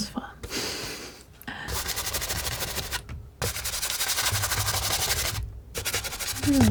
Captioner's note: scratching